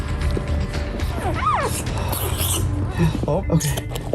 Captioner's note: puppy Whining